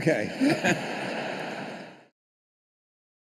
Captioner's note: laughter